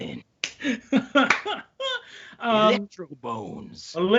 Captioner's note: laughing